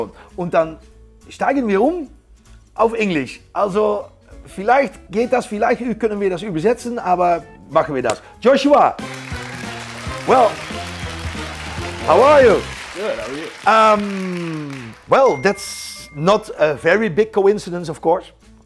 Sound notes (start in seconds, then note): 9.0 crowd clapping; 9.3 gameshow music